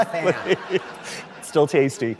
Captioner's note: laughter